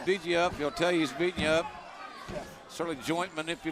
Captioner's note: crowd chatter